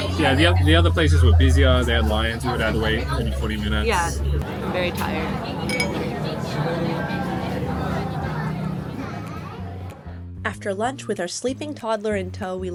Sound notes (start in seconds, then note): 5.6 glasses clinking; 5.8 diners chattering; 9.8 rhythmic music